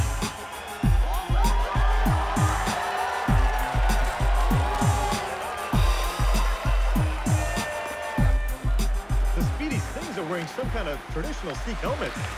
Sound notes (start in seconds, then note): 1.0 cheering; 5.8 horn blaring